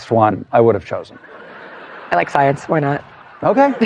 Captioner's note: laughter